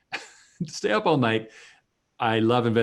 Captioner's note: chuckles